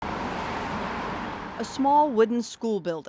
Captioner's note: cars whooshing